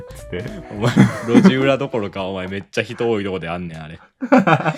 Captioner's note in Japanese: 笑い